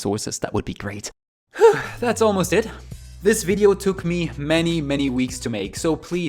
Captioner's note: sigh